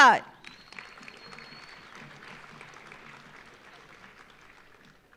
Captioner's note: audience applauding